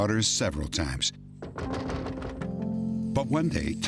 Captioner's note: knocking